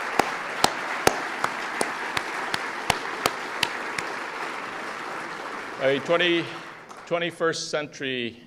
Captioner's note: applause